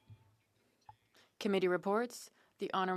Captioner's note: speaking French